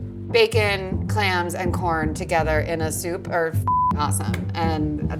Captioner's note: beep